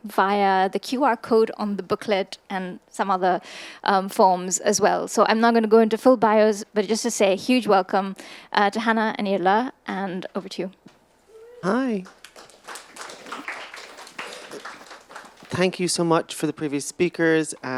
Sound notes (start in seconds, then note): 11.6 attendees applauding